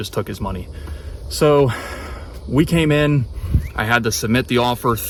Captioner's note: sighs